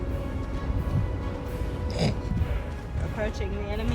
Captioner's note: sister snorts off camera